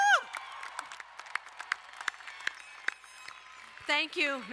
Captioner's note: crowd cheering and applauding